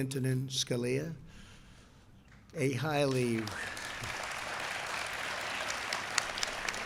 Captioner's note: applause